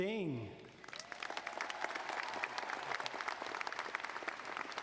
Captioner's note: audience applauding